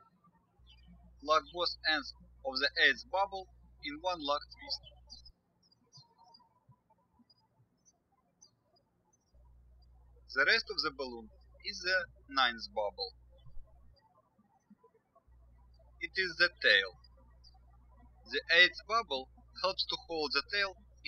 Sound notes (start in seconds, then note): 6.1 birds chirping; 14.0 birds chirping